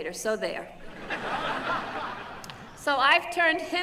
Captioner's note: laughter